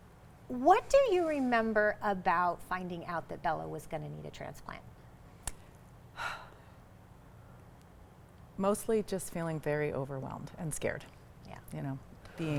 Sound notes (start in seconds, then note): 6.2 exhales deeply